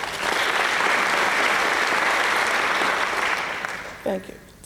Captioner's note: applause